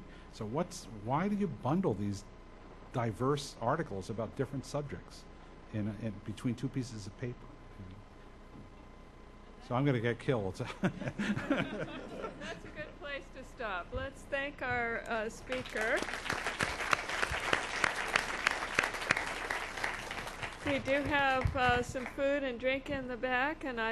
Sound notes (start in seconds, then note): 10.7 laughs; 10.8 audience laughs; 15.5 audience applauds